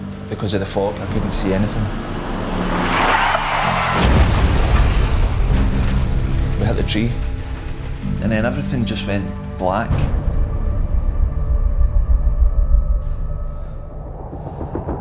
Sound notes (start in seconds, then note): 2.8 breaks screeching; 3.7 crashing noise